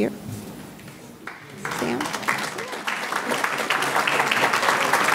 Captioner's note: audience clapping